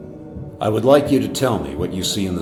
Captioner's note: disembodied Voice